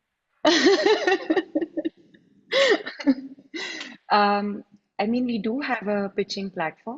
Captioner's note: laughs